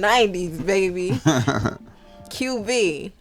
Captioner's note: chuckling